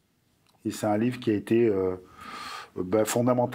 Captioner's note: non-english speech